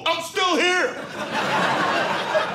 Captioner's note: audience laughing